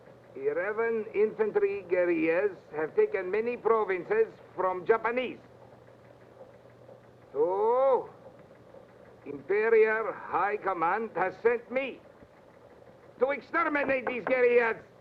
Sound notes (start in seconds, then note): none